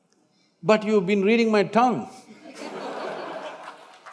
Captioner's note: few laugh